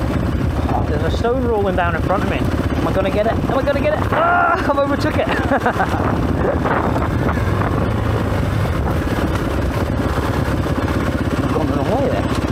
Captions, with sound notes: There's a stone rolling down in front of me. Am I gonna get it? Am I gonna get it? (yells) I overtook it. (laughs) (engine revving) I'm going the wrong way there.